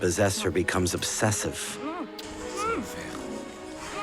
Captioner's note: Charpillon grunts